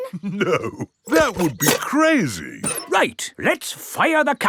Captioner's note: chuckling